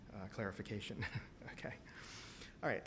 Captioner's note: chuckles